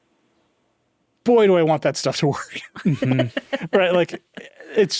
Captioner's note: chuckling